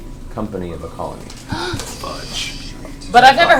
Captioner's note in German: keucht auf